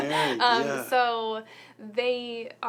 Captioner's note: laughs